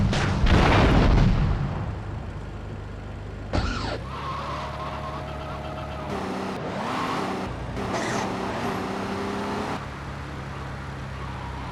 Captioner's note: gunshot